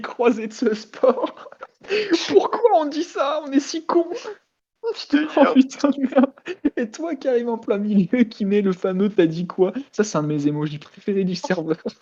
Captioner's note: laugh